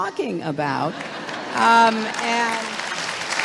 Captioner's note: applause